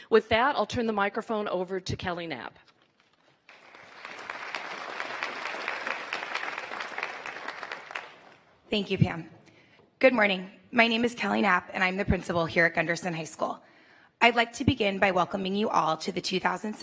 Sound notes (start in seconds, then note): 8.8 applause